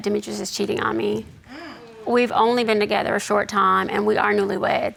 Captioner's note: audience gasps